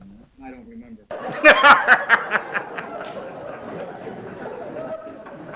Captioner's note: laughs